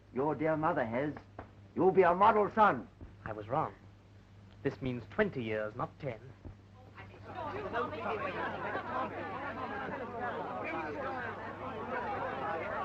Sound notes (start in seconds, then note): 6.9 chattering